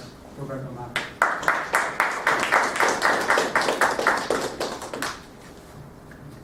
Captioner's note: applause